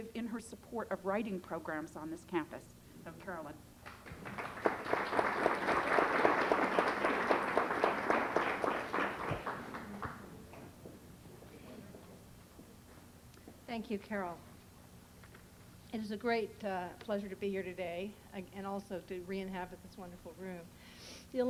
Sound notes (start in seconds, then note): 3.8 applause